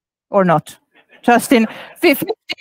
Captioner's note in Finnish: Laughs